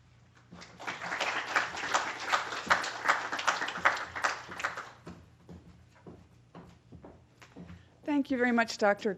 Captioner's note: applause